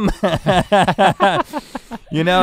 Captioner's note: both chuckle